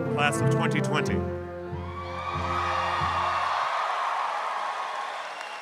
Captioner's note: audience cheering